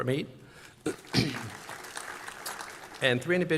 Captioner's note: applause